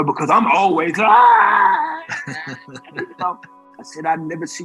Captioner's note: guest laughing